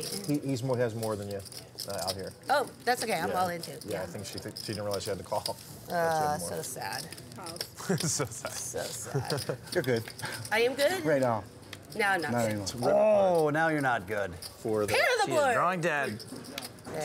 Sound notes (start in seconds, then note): 8.8 chuckling; 12.8 exclaiming discontent